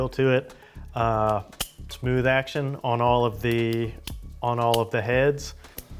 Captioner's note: metal clicking